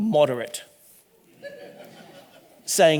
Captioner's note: audience laughing